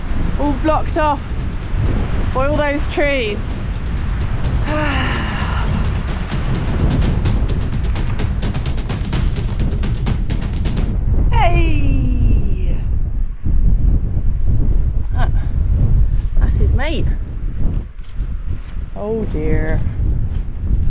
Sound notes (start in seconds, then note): 4.6 sigh